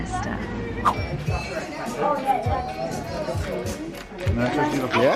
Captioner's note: people chattering